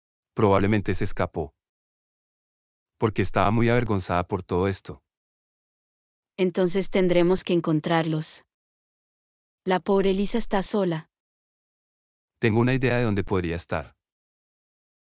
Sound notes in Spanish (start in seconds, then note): none